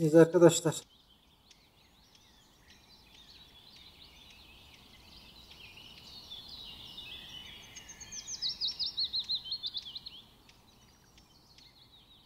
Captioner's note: bird sounds